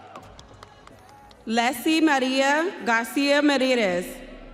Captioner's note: audience cheering